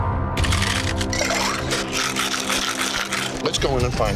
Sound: ice rattling loudly

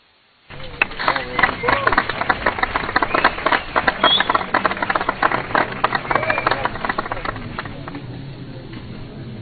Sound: applause

